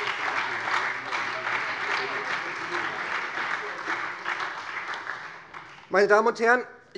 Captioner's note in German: Beifall SPD und Freie Demokraten